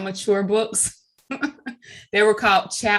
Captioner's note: chuckling